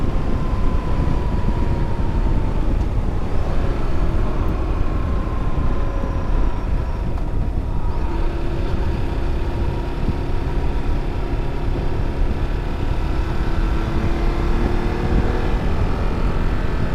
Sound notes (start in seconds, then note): 1.3 engine rumbling